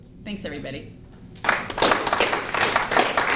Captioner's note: applause